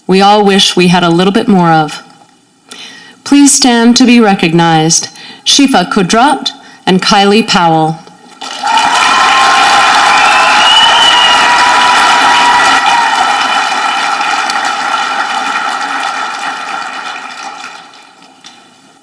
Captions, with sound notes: we all wish we had a little bit more of. Please stand to be recognized, Shifa Qudrat and Kylie Powell. (audience clapping)